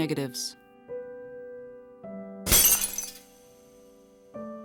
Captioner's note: glass breaking